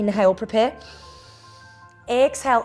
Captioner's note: inhales